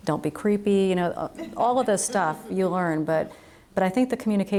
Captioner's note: audience laughs